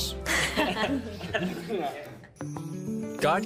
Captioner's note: all laughing